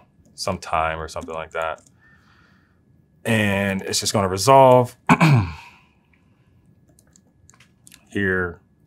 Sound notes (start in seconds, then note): 5.0 cough